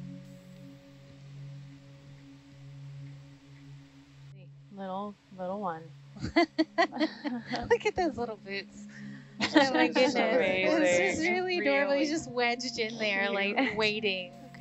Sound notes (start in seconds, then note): 0.2 soothing music; 6.2 woman laughing; 9.4 grouping chatting